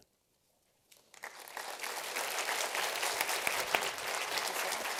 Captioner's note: applause